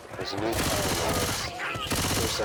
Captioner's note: loud gunfire